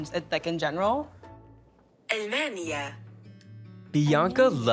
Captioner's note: voice assistant speaking foreign word